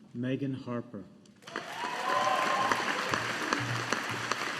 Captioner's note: audience applauding